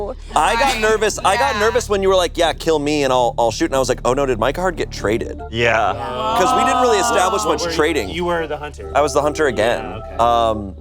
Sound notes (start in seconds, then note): 5.8 group gasping